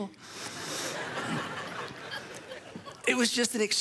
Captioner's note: audience laughs